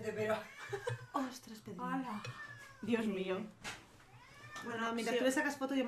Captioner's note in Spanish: gatos maullando